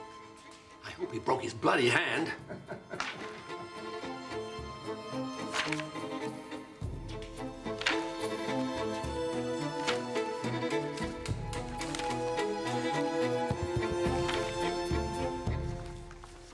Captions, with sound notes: I hope he broke his bloody hand. (businessman laughs) (tense pensive music)